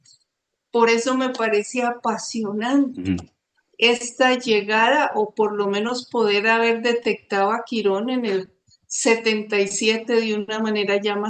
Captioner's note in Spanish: carraspeo